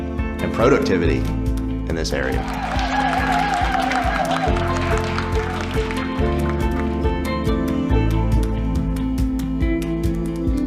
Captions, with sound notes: and productivity in this area. (people applauding) (light music)